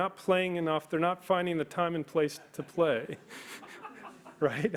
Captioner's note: laughs